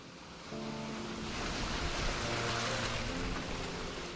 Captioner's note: waves crashing; gentle music